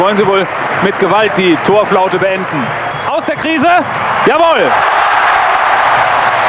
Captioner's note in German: jubel